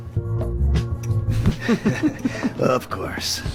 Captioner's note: laughs